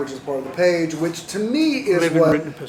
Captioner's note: none